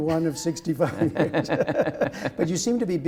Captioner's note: laughter